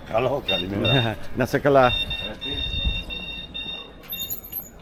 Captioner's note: speaking in foreign language; alarm beeping